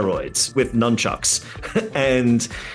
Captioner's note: laughing